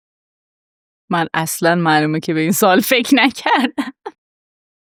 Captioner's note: laughs